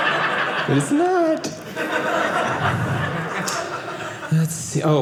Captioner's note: audience laughing